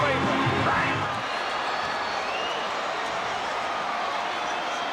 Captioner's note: audience cheering